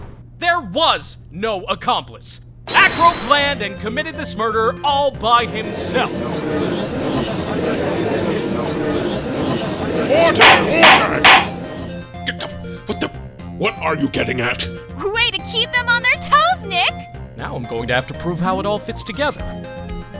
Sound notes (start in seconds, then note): 6.7 gallery chattering!; 10.2 gavel slams!; 12.6 stammering